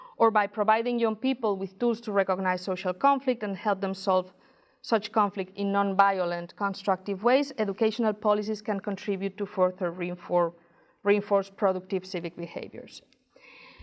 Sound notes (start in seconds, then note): none